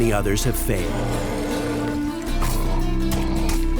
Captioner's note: monster roaring